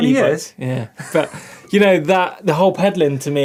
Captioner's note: laughing